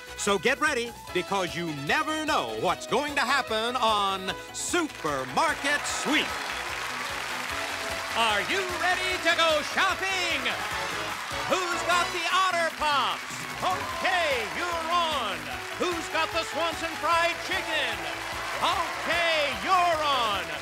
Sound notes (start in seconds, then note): 6.8 cheers and applause